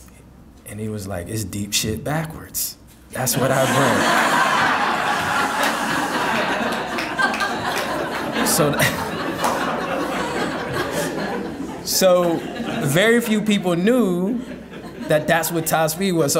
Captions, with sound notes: And he was like, "It's deep shit backwards. That's what I bring." (audience laughing) So, very few people knew that that's what Tihspeed was.